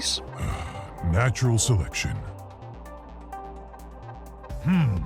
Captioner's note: voiceover